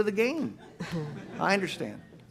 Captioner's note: audience laughs